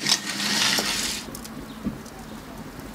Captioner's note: blazing, crackling